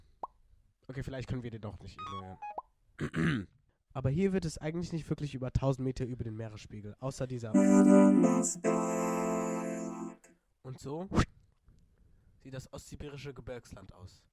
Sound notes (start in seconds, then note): 3.0 clears throat